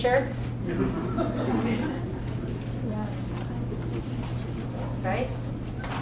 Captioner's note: laugh